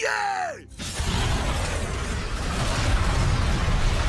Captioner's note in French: une explosion gronde